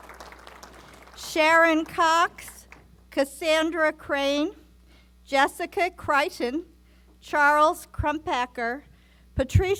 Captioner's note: applause